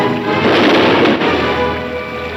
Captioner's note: gun firing; tense music